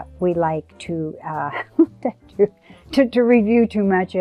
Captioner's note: chuckles